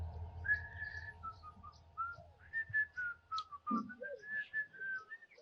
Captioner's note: whistling